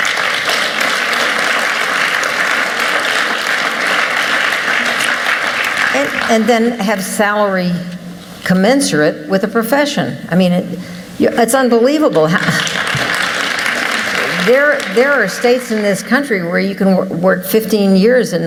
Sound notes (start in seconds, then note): 0.0 applause; 12.4 applause